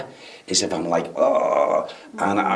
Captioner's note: groans